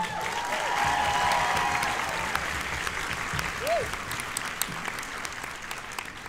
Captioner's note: cheers and applause